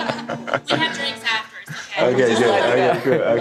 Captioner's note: audience laughing